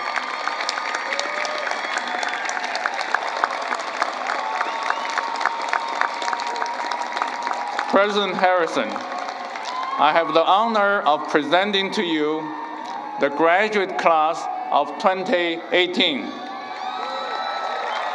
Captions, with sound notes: >> [APPLAUSE] >> PRESIDENT HARRISON, I HAVE THE HONOR OF PRESENTING TO YOU THE GRADUATE CLASS OF 2018.